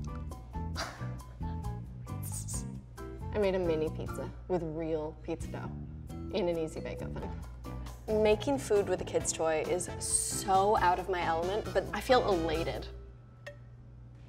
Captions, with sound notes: (laughs) I made a mini pizza with real pizza dough in an Easy Bake Oven. Making food with a kid's toy is so out of my element but I feel elated.